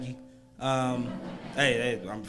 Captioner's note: crowd laughs